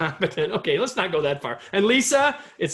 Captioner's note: laughter